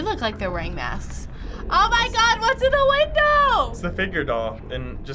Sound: gasping

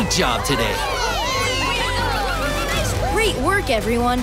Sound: cheering

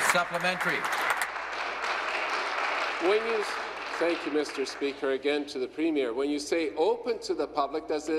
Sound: applause

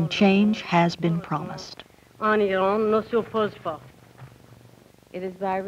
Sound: Speaking Farsi

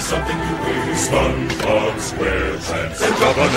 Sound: beer mugs clanking

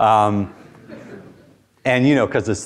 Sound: students chuckle

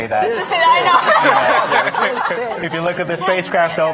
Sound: laughing

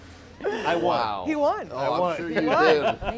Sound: laughs; laughs

